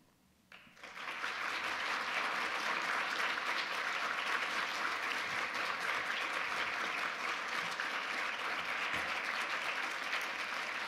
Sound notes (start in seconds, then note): 0.9 audience applause